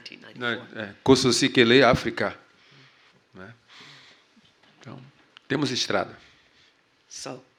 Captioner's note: speaking portuguese